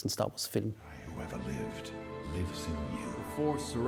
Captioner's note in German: Er spricht auf Englisch